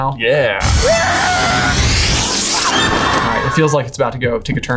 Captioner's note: Neville screaming